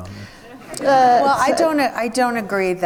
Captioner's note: audience laughs